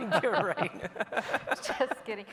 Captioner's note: laughing